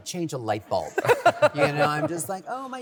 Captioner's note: laughter